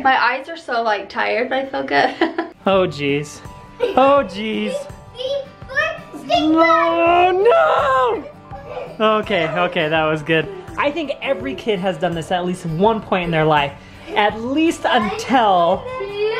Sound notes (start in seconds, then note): 2.1 laughs